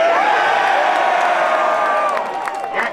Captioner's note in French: cris et applaudissements